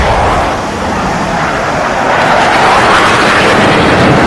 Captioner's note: jet engine roaring